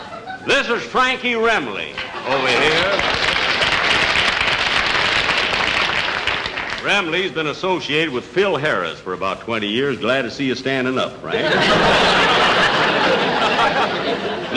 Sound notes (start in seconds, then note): 1.9 audience Applauding; 11.2 audience Laughing